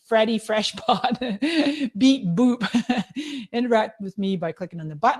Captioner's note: laughing